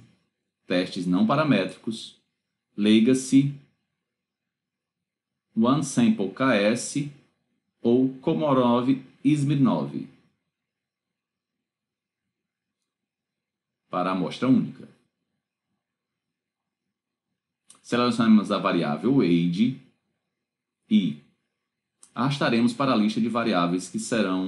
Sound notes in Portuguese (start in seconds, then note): 15.1 silêncio